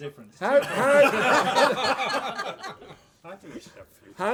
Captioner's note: laughter